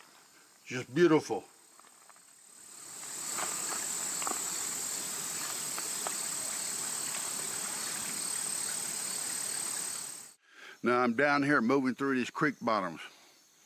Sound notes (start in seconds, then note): 1.9 insects chittering; 4.1 creek flowing